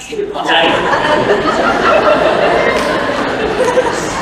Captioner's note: laughter